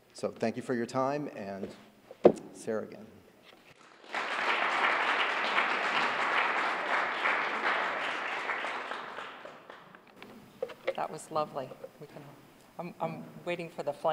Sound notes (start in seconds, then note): 3.8 applause